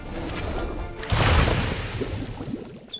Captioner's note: splash!